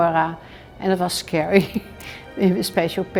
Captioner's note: laughs